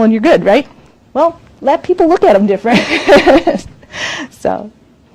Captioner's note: laughs